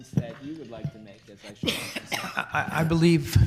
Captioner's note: person coughing